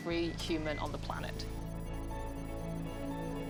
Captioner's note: beeping